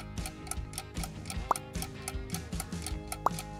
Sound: pop

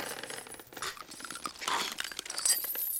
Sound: cracking

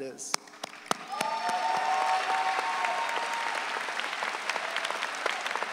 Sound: audience cheering

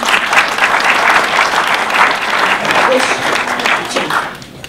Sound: audience applause

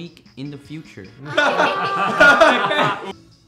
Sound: hysterical

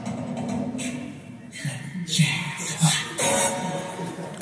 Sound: whispers

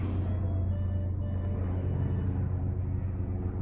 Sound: helicopter passing by..🚁

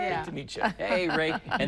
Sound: laughter

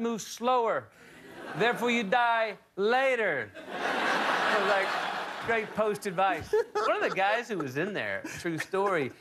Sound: laughter

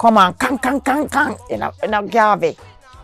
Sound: verbal gun salute

